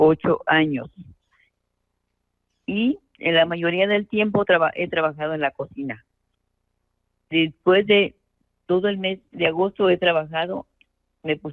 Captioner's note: speaking in Spanish